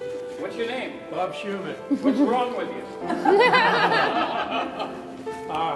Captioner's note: all laughing